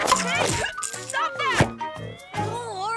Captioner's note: rattles smacking